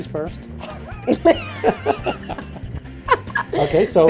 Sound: laughter

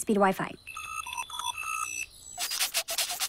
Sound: phone ringing

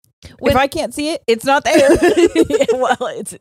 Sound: both laughing

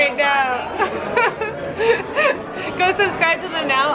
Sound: laughing

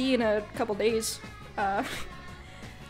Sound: laughs

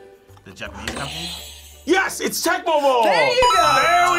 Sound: buzzer rings

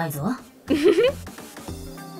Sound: chuckles

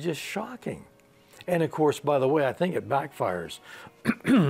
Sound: he clears his throat

